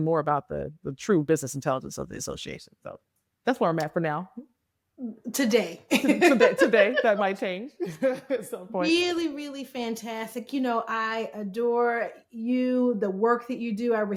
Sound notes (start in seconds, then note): 5.9 laughing